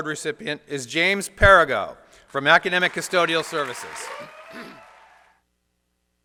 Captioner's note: applause